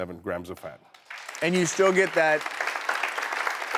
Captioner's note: audience clapping